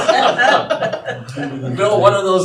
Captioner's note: audience laughing